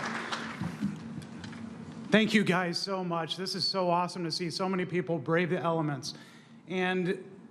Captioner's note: applause